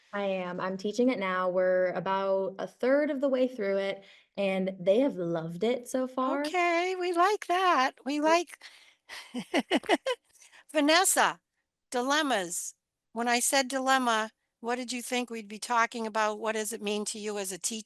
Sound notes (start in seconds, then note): 9.2 laughs